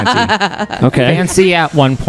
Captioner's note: laughs